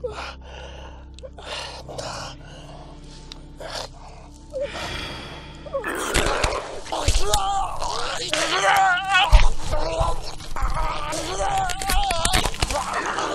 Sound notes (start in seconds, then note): 3.6 heavy breathing; 5.8 roar; 7.6 bones crunching; 11.6 flesh tearing